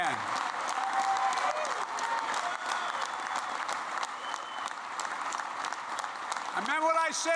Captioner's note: applause